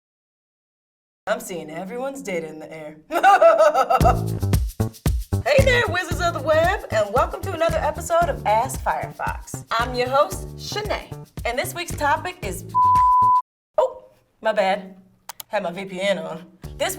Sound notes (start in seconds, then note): 3.1 evil Laugh; 12.7 beep